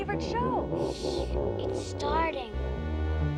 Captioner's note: hushing